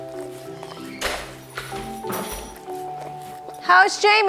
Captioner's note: upbeat music; door creaking